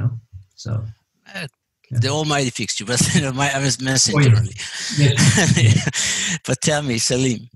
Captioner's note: laugh